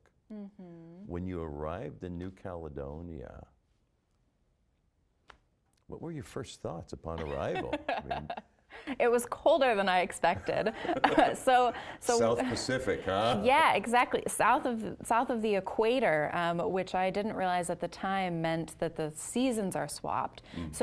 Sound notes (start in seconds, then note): 7.2 laughing; 10.4 both laughing